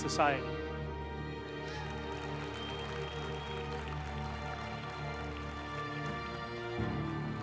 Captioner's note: uplifting music; group applauding